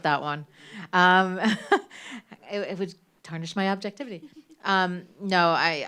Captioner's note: laughs